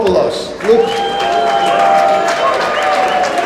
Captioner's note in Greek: χειροκροτημα